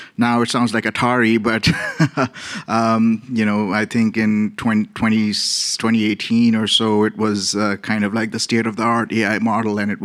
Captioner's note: laughs